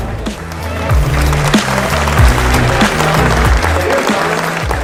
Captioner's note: audience applause